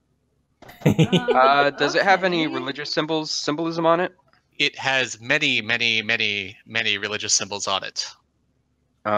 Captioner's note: laughter